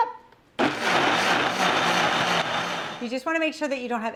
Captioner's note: blender whirring